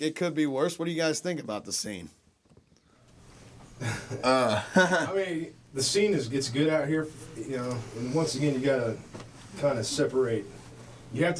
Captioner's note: chuckles